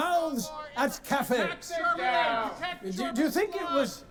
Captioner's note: crowd shouting